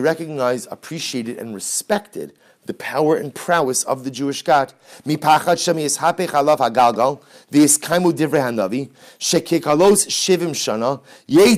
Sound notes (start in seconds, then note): 7.7 Hebrew